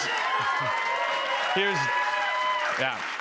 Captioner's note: cheers and applause